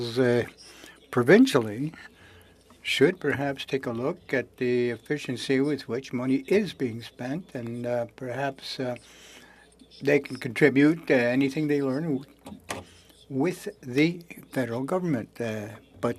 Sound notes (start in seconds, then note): 6.5 speaking French